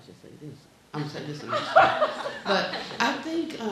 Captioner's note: muttering and laughing